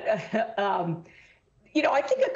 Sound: laughter

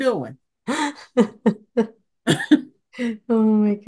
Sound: laughs

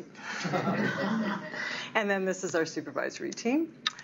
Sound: laughter

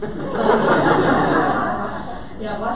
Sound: audience laughter

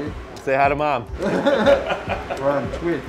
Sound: laughing

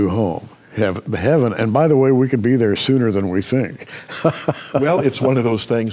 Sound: laughs

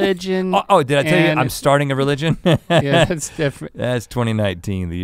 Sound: laughs

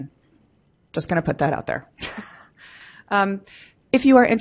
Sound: laughs

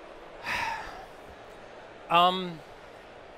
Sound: sighing

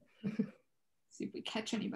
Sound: chuckling

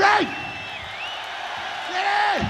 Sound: audience cheers

